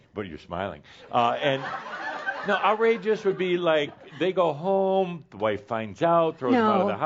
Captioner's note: laughter